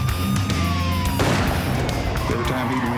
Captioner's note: gunfire